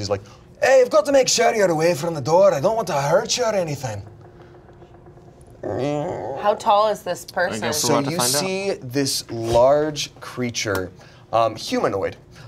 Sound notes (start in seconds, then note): 5.9 imitates door creaking